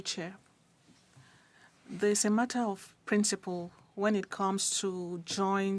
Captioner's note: speaking French